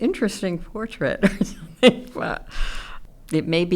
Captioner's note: chuckles